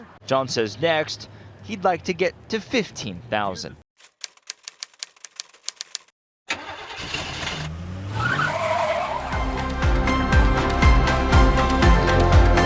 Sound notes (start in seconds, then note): 4.0 typewriter clicking; 6.5 engine firing; 8.6 tires squealing; 9.3 bright music